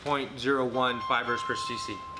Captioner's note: phone ringing loudly